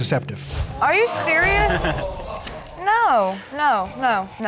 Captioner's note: crowd gasping